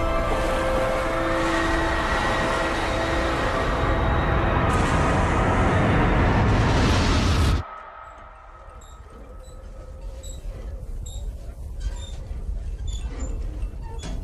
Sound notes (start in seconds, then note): 1.1 people screaming; 8.0 creaking